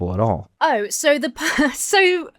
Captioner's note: chuckles